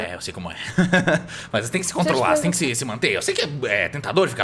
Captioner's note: laughs